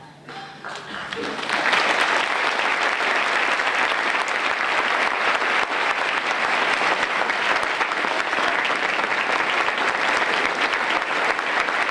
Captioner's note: applause